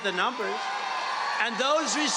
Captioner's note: cheering